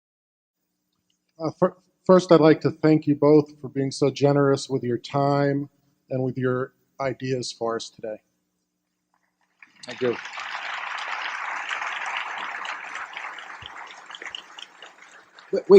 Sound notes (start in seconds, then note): 9.4 applause